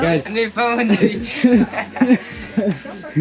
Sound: foreign language

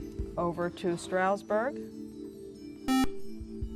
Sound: buzzer

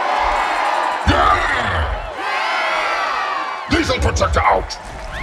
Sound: crowd

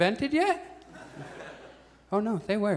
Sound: audience chuckles

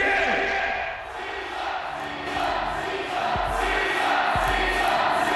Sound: crowd chanting

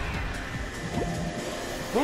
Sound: suction noises

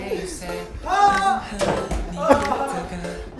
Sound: crashing; click clack

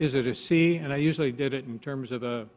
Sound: none

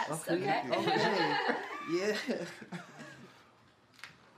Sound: all laugh

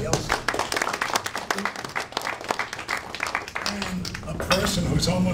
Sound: audience applauding

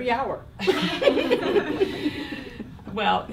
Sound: laughing

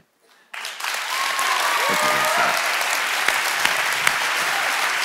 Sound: congregation applauds

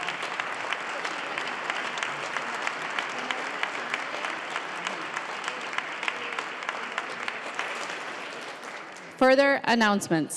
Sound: applause

